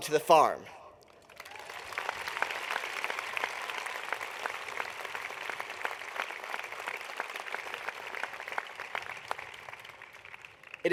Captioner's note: applause